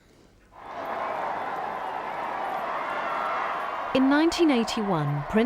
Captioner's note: crowd cheering loudly